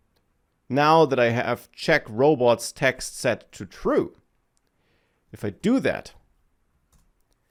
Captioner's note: none